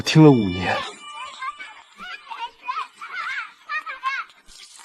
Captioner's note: laughs